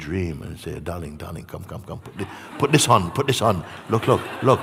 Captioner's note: laughter